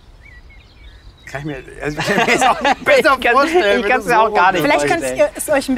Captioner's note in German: lacht